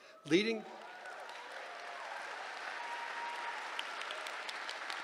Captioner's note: applause